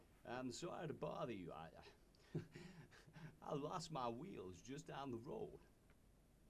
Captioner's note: scoffs